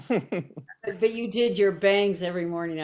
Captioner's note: chuckles